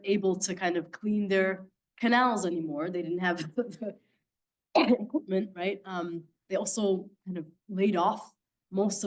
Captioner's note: coughing